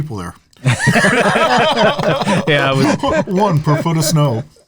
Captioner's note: laughing